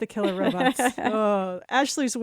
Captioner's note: laughs